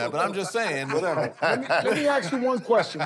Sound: laughter

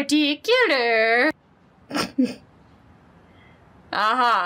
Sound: snort laugh

